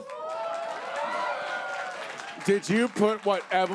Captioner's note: audience cheers